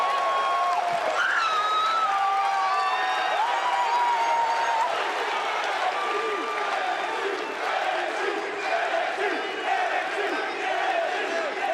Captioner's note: crowd cheering